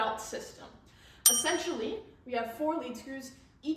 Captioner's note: ding sound effect